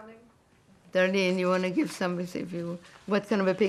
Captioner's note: mumbling